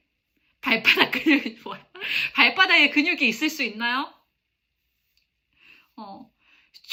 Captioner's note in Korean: 웃음